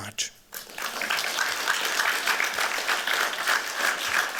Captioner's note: applause